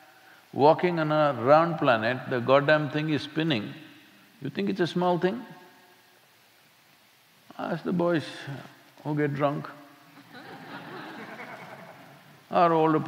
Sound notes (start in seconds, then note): 10.2 laughter